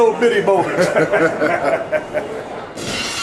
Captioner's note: both chuckle; glass shatters